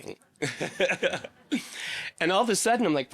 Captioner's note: laughing